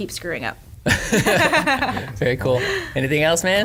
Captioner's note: laughter